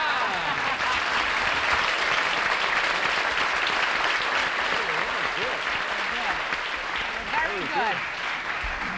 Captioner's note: applause